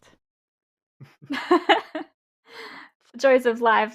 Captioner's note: laughs